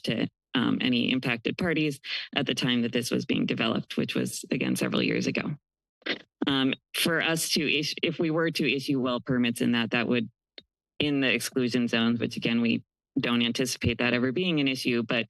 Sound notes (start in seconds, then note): none